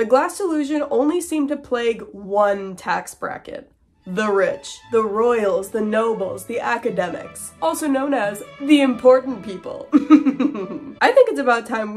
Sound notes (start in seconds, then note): 4.0 classical music; 7.8 snooty voice; 9.9 sensible chuckle